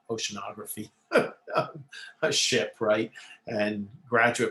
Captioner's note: laughter